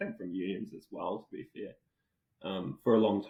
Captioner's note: faintly speaking